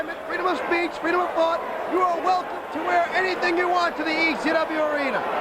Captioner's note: crowd chatter